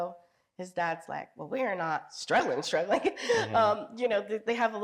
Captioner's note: chuckles